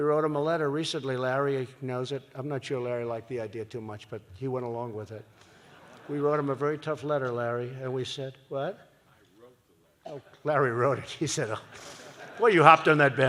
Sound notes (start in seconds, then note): 5.5 laughter; 11.6 laughs; 11.7 laughter